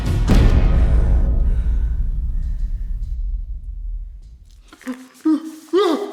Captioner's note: Michiko breathing heavily; Faizan grunting